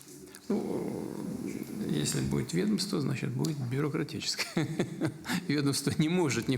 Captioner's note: laughter